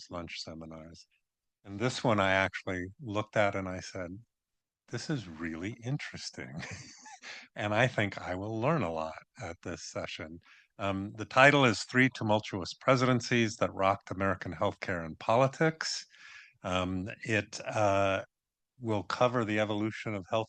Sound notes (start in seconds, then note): 6.5 chuckles